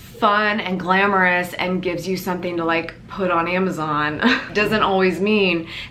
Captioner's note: laughs